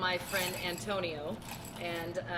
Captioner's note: ice clattering